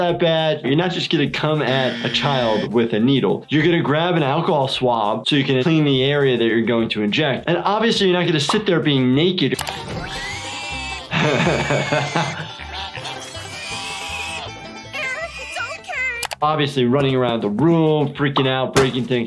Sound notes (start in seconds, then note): 9.6 pig squealing; 10.8 laughing